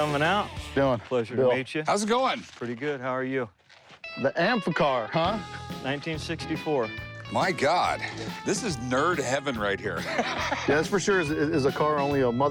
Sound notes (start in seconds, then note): 10.0 laughs